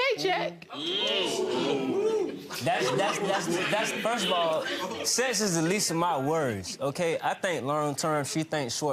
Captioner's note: audience oohing